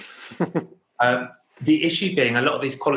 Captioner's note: laughing